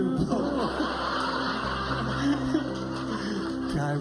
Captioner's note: laughter